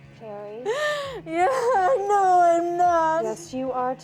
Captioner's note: crying